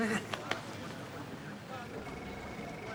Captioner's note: laughs